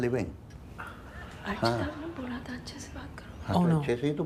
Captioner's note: conversing in Hindi